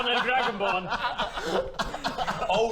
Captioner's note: laughs